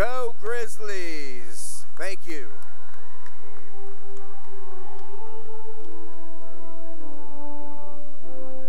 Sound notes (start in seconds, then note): 2.2 cheering and applause